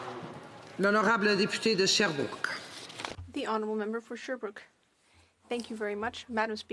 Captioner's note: some Applause